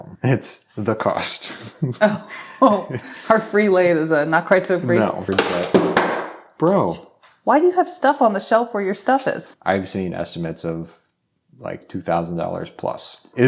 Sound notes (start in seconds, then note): 5.3 object thudding